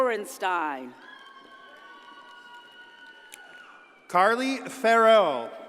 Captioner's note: audience cheers and applauds